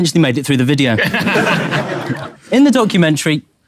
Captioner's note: people in room laughing